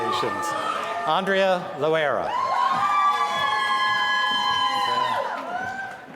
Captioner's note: applause